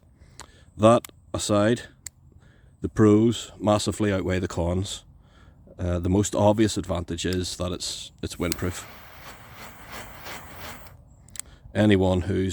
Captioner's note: whooshing sounds